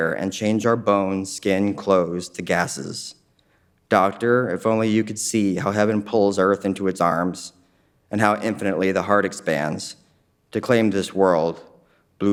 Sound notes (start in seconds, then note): none